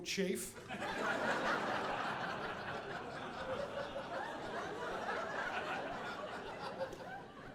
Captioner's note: audience laughing